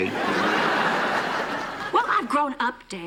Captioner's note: laughter